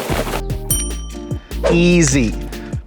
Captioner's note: bell dings